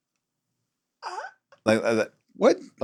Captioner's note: gags